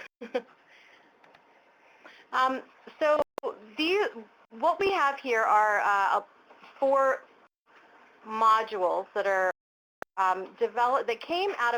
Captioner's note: laughter